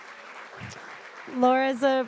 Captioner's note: audience applauding